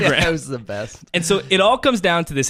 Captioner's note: laughs